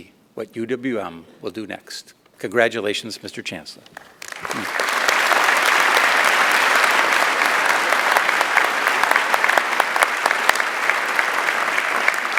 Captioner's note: applause